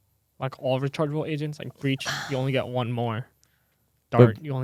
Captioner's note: sighs